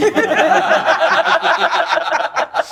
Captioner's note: all laughing